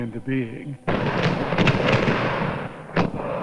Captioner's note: explosion